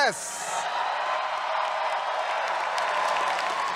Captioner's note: cheers